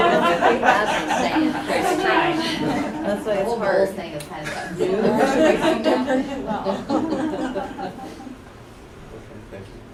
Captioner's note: laughter